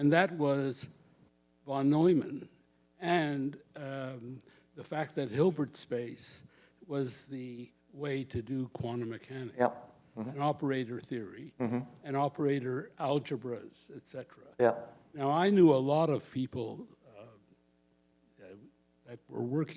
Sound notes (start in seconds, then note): none